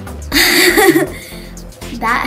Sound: laughs

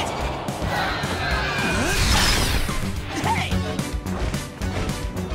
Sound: Puddles shrieks

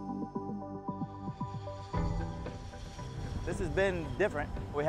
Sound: airplane Landing

